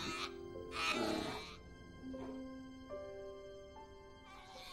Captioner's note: cubs bleating